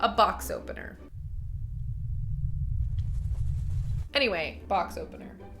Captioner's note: air pressure rumbling